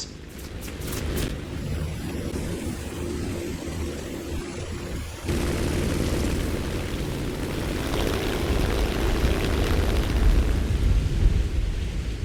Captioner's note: aircraft Engines ,Gunfire, Flying Sounds